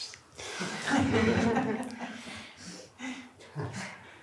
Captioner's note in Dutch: gelach